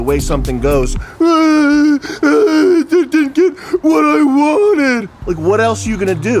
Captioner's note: pathetic wailing